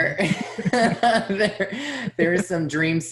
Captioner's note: laughs